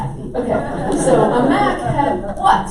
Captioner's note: audience laughs